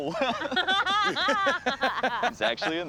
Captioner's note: laughter